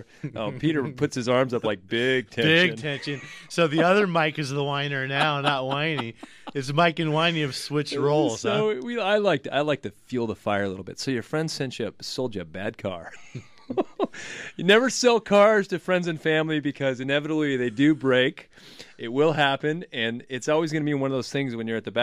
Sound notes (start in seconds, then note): 0.1 laughs; 13.0 both laugh